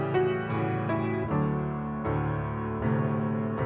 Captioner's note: none